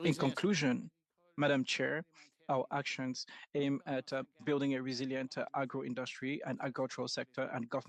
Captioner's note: speaking French